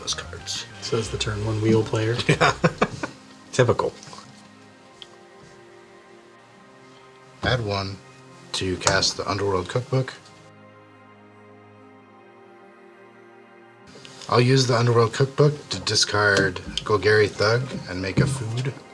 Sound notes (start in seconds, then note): 2.8 snarkily